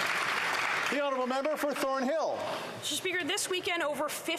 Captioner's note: some Applause